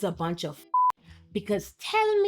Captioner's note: beep